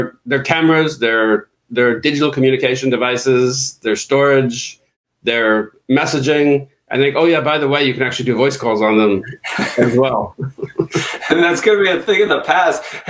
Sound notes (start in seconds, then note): 9.2 laughing